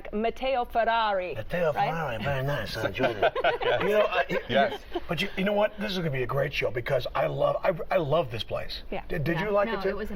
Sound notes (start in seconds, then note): 1.4 italian accent; 2.8 laughter